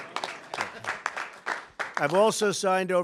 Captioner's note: applause